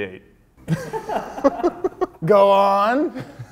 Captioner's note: men laughing